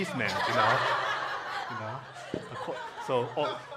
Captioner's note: congregation laughing